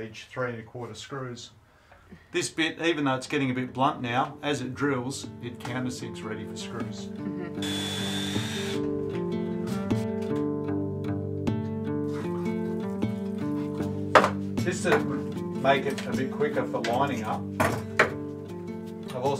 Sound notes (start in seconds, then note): 7.6 drill whirs; 9.6 gentle guitar music plays